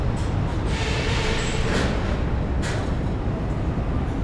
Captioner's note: train rumbling